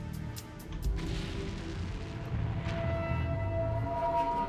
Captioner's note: different explosion sounds